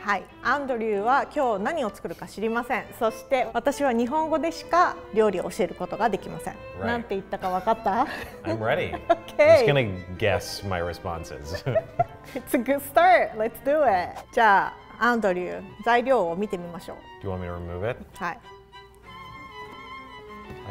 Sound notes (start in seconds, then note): 0.1 speaks in foreign language; 7.4 laughs; 7.5 speaks in foreign language; 8.1 chuckles; 11.4 both laugh; 14.3 speaks in foreign language; 18.2 speaks in foreign language; 19.4 bright strings music